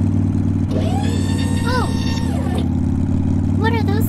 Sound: futuristic Stabilizer Hydraulics Whirring

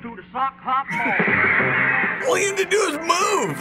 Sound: fangirls scream

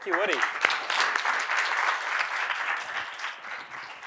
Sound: applause

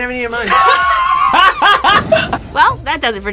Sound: laughs

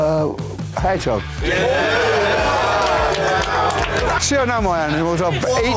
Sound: crowd cheerings

